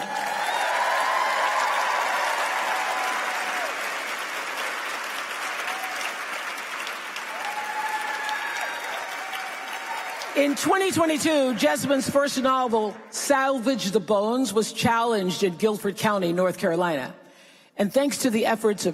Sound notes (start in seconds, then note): 16.5 applause